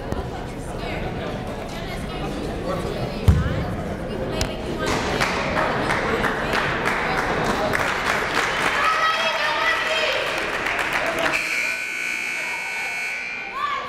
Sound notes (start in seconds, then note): 7.0 crowd applauding and cheering; 11.2 buzzer blaring